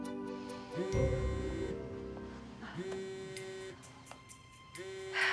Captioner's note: sighing; phone vibrating; sighing